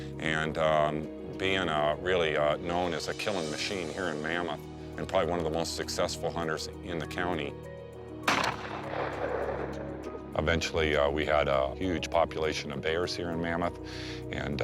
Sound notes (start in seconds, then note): 8.2 gun blasting